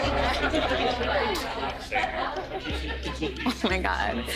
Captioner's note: crowd chattering